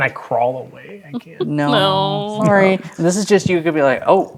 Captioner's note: chuckles